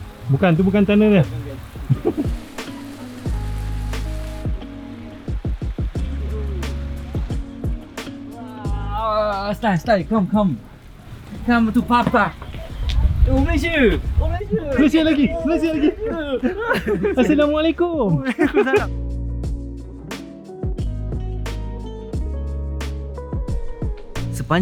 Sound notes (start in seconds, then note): 1.6 laugh; 2.4 background music; 18.0 laugh; 19.3 background music